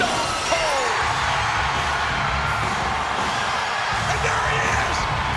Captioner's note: audience cheering; upbeat music